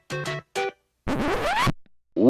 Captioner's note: record needle scratch